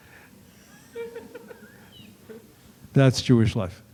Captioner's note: laughter